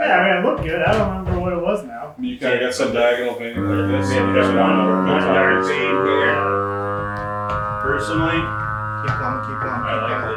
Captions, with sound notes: - Yeah, I mean, it looked good. I don't remember what it was now. - You got some diagonal thing. (machine buzzing drowns out speakers) - Vein here. Personally- - Keep coming, keep coming.